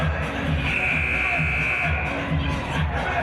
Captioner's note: buzzer